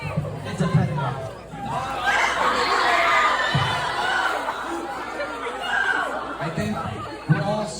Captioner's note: audience screams even more